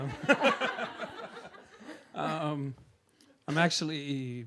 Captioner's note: audience laughing